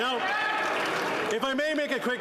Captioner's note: applause